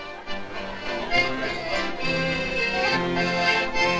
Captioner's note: chattering